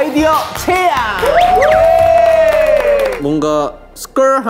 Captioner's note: applause to begin